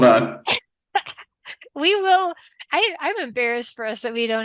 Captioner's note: laughs